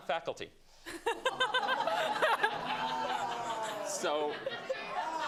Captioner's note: laughter